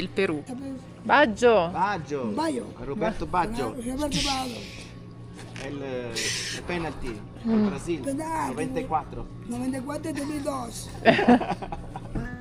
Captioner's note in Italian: risate